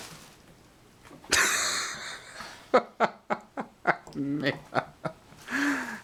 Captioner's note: laughing